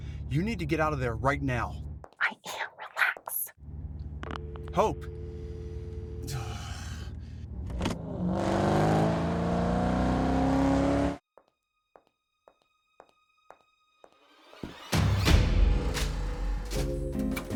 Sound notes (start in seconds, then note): 4.6 phone clicking; 6.2 sighs; 8.6 engine roaring; 12.4 slow suspenseful music; 14.3 dramatic music